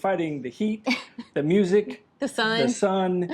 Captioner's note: laughing